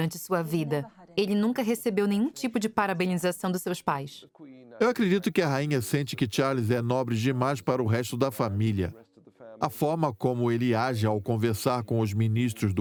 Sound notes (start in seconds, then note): 4.3 voiceover